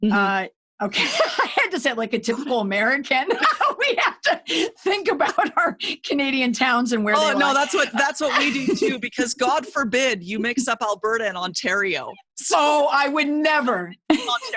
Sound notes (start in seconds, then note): 3.3 laughs